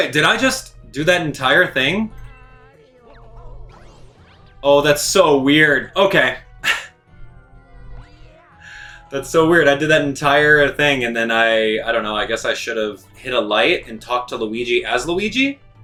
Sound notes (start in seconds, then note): 3.0 gaming sounds; 6.6 chuckles